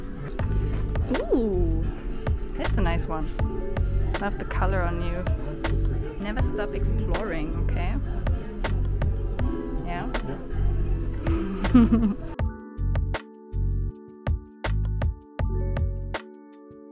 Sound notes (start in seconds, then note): 11.4 laughs; 13.6 chill music